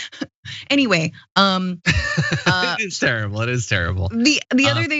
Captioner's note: laugh